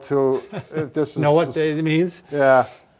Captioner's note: laughing